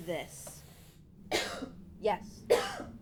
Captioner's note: Robin coughs